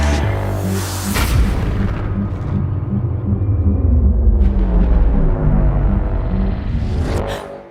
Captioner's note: echoing boom; gasps